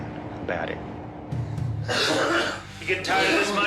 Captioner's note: coughing